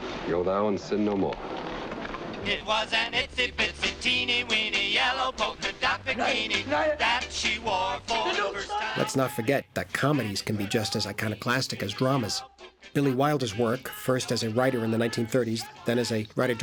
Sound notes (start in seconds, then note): 8.6 shouting In German